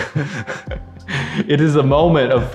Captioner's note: both chuckling